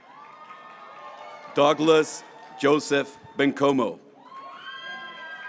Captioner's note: graduates applauding